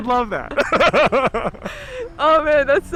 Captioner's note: both laughing